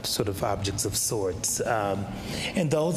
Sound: none

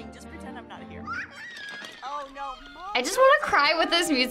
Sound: Molly squeals

